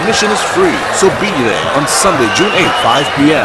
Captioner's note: wild applause and cheering for 22 seconds